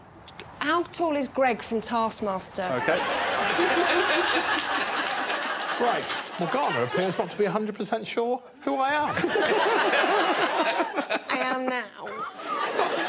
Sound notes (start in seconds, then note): 2.7 audience laughing; 3.5 scattered applause; 9.0 audience laughing